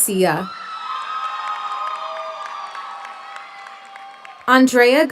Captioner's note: audience cheers; audience applauds